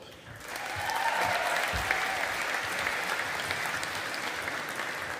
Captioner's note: audience applauding